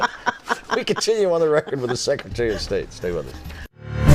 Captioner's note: laughter